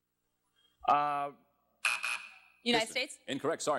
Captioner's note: buzzer sounds